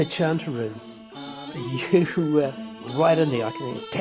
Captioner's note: chuckles